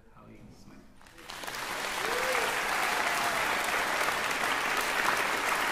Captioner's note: applause